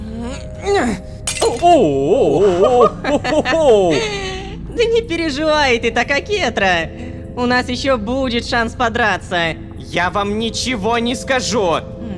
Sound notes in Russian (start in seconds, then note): 1.2 Звук разбившегося стакана